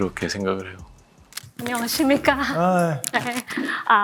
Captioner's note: in Korean